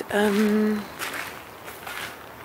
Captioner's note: footsteps